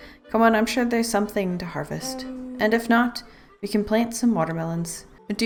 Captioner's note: none